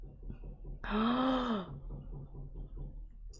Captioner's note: gasps